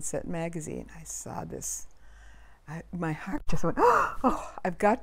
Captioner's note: gasp